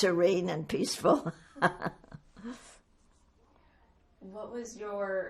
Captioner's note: laughing